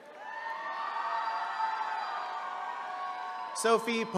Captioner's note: attendees cheering